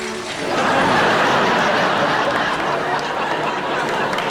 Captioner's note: laughter and clapping